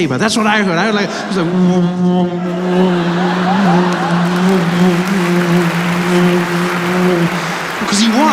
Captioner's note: sound of a light sabre